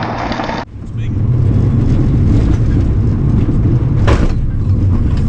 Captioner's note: engine rumbling